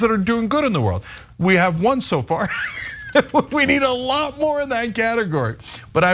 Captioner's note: laugh